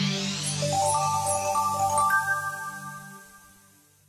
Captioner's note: bell chimes